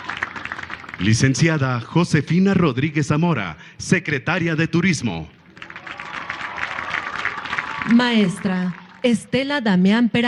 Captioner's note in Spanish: aplausos